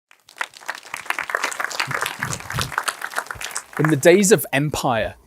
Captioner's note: audience applauding